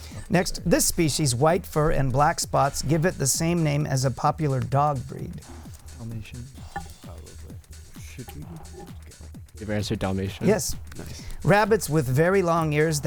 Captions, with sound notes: Next, this species, white fur and black spots give it the same name as a popular dog breed. [Wispering] We have our answer, Dalmatian. Yes, rabbits with very long years